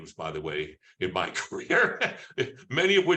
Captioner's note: laughs